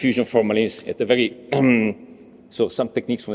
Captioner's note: he clears throat